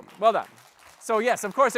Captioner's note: applause